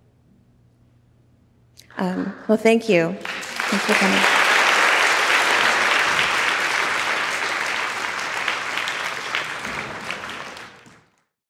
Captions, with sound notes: Well, thank you. (audience applauding)